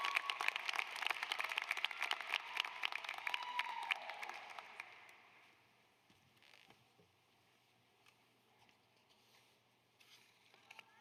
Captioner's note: applause